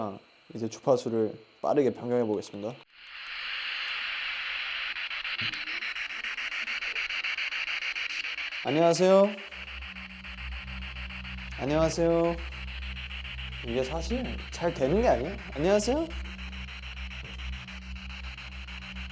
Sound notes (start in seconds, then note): 2.8 static noise; 4.9 static buzzing